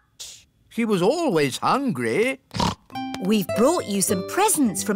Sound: snorts

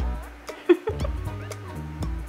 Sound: giggling

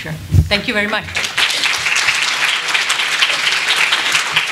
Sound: applause

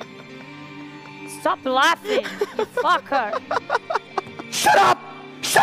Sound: laughs

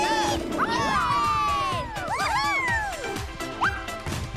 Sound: all cheering

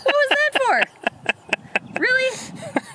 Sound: laughing in the background

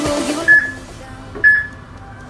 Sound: peep

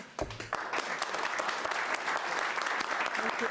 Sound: audience applauding

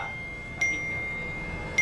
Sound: text tone

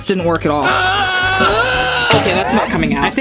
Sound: groaning

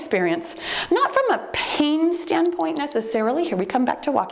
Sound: timer beeps

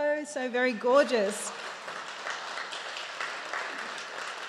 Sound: audience applauds

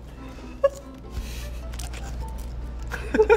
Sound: laughing

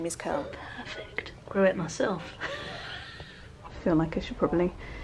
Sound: laughs

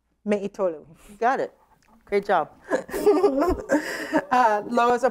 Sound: laughter

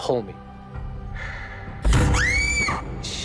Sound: screams

